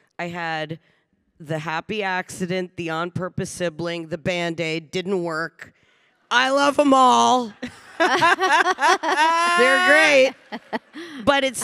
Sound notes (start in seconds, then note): 7.2 panelists laughing